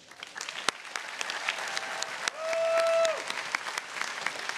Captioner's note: audience cheering